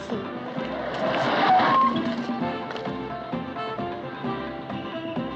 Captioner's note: tires Screech